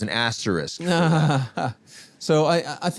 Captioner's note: laughs